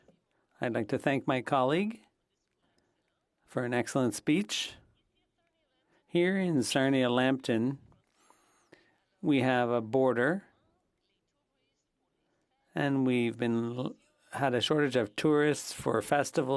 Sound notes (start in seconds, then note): 5.2 speaking French